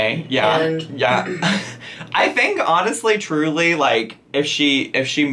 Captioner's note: chuckles